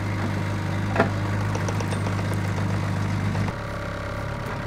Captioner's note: engine idling